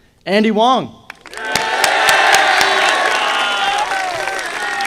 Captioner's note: audience applauding